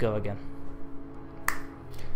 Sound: finger snap

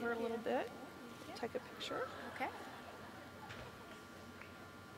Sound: laughter

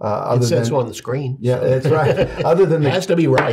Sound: laughs

